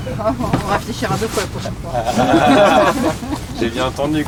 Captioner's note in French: rires